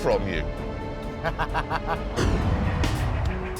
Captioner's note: laughs